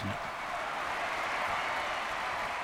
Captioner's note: cheering and applauding